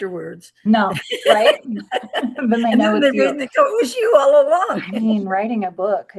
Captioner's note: laughs